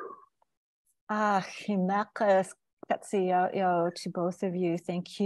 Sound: speaking in indigenous language

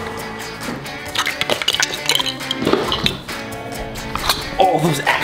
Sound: toys clattering

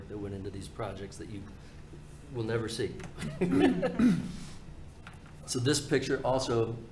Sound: laughs

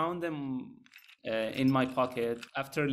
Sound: keys jangle

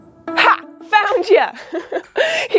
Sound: giggles

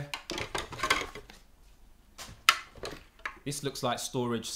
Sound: parts rattling

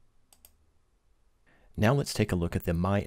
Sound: clicking

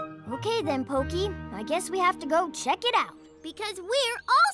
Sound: none

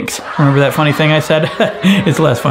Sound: audience boos

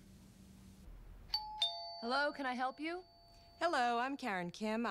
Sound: doorbell Rings

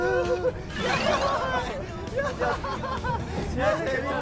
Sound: laughter continues and they spent happily together

